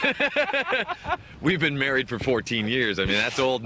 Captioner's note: all laughing